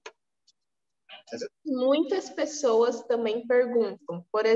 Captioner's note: speaking portuguese